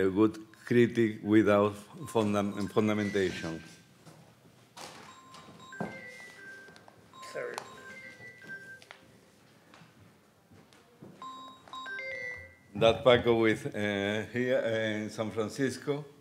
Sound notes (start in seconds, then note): 3.4 phone chiming